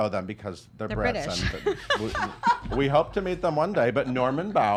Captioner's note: laughing